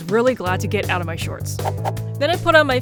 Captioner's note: whoosh